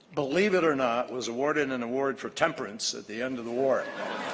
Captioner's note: laughter